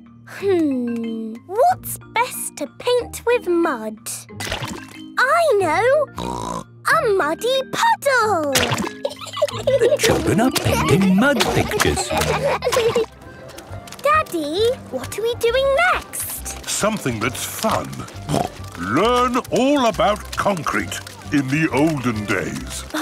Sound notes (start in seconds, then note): 8.9 laughing